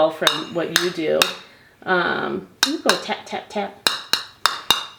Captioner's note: tapping toys